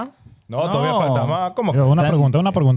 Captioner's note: speaking In Foreign Language